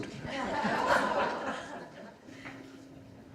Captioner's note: laughing